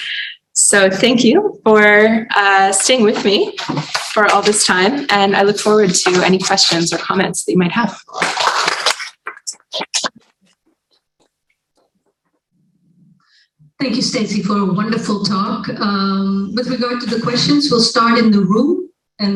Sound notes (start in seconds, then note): 8.0 applause